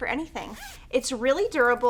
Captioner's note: zipper unzipping